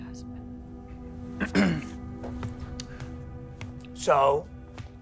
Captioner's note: clears throat